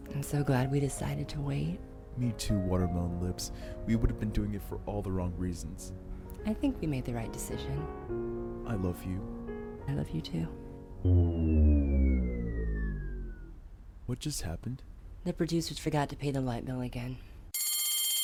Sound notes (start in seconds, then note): 0.0 romantic piano music; 11.0 comical draining noise